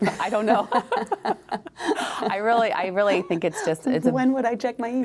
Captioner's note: laughter